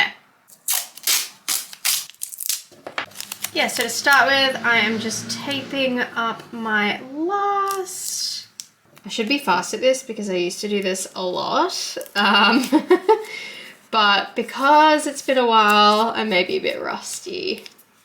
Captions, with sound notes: Yeah, so to start with, I am just taping up my last. I should be fast at this, because I used to do this a lot, um *laughs* but because it's been a while, I may be a bit rusty.